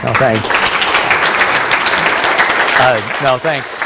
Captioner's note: applause